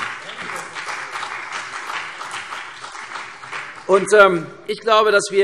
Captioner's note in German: Beifall